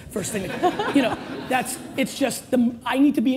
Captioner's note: audience laughs